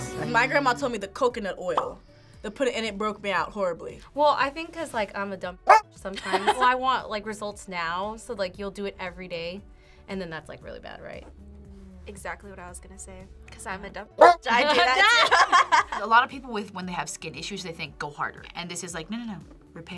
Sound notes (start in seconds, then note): 6.5 laughs; 14.7 both laugh